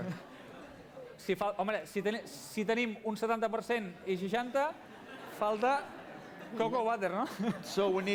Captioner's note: non-english speech